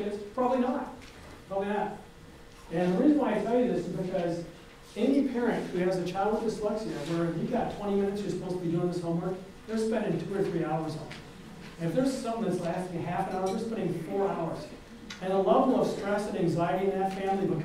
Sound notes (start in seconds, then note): none